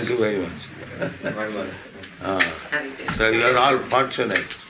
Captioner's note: chuckles